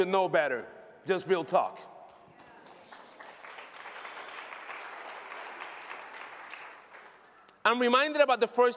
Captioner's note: applause